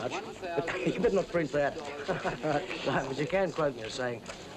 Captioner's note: chuckles